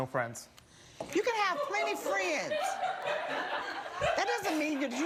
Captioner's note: audience laughs